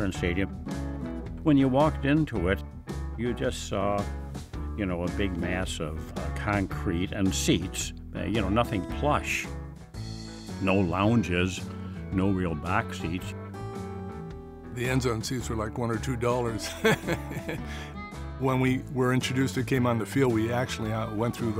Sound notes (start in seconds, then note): 16.6 chuckles